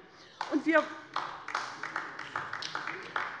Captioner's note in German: Beifall bei der LINKEN